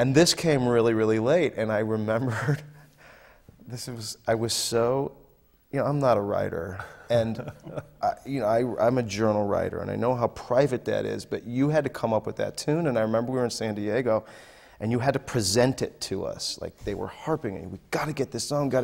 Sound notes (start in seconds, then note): 2.9 laughs